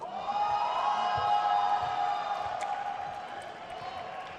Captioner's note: crowd cheers